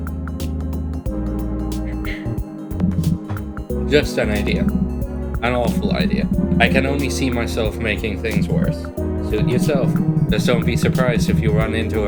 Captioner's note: ahem